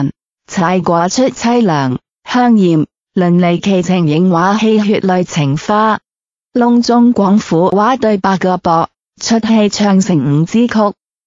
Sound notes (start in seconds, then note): 7.7 Cantonese dialogue